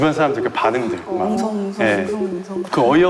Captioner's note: murmur